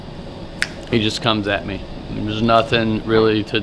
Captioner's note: snaps fingers